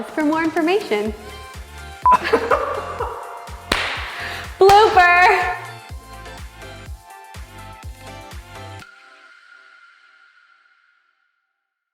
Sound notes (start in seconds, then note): 2.1 laughs